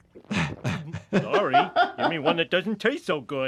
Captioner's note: laughs